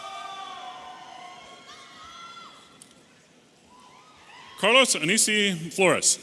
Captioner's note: audience cheering